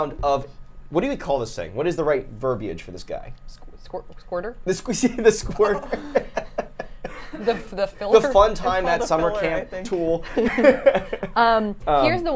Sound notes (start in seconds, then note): 5.4 laughs; 10.2 laughs